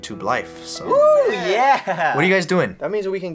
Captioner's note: laughs